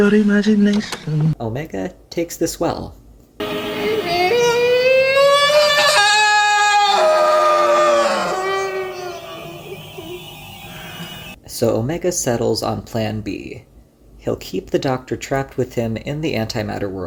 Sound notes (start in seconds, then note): 3.8 anguished scream